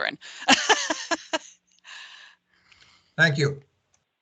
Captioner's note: laughs